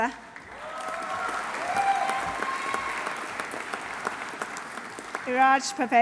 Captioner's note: audience applauding; audience cheering